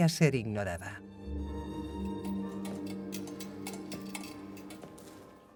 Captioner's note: bells chiming